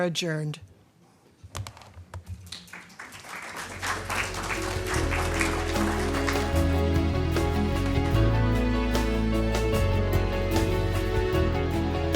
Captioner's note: applause